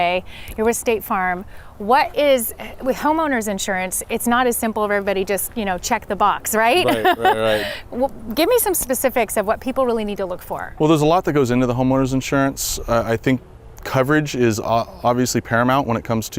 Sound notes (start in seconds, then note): 6.7 laughs